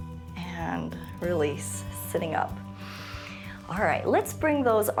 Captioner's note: inhales